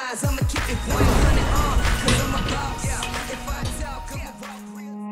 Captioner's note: metal clanging